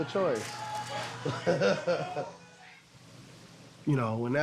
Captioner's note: laughing